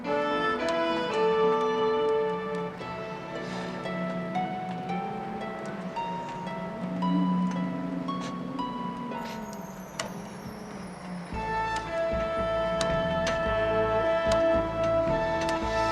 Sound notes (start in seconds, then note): 3.1 sighs; 4.2 dramatic music playing